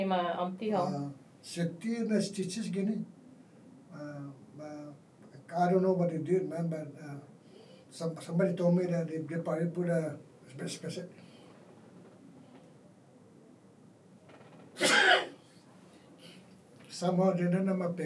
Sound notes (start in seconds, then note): 10.5 excuse me .. sneezes